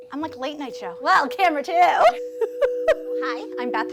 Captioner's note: laughter